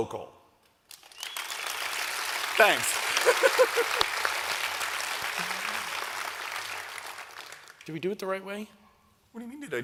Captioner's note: applause